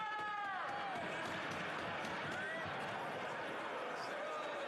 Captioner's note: speaking French